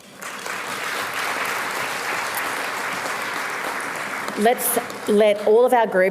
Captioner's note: applause